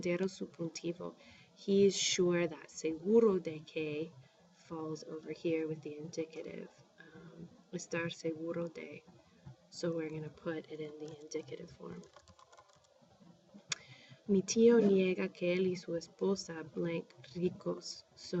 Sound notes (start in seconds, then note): 4.8 spanish; 5.7 speaking spanish; 9.5 spanish; 12.0 speaking spanish